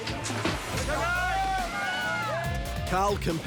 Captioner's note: shouting